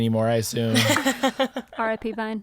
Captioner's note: laughing